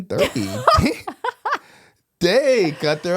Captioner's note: laughing